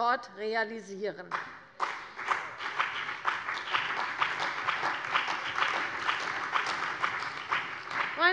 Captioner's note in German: Beifall bei der CDU und dem BÜNDNIS 90/DIE GRÜNEN